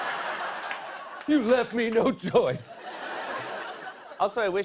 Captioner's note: laughter